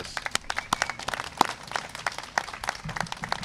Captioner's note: applause